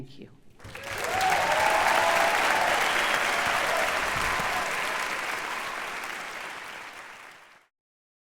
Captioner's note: audience applause